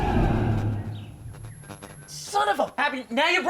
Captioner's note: sinister dramatic music; static buzzing